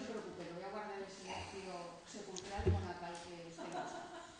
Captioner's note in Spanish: Risas